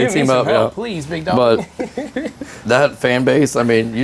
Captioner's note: laughing